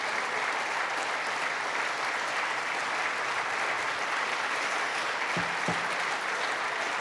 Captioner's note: applause